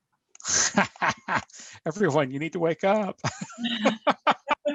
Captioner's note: laughing